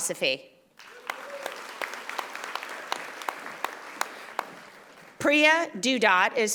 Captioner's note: audience applauding